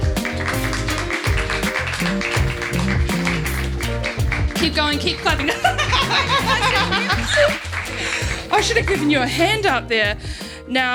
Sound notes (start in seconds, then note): 0.1 upbeat music; 5.3 laughing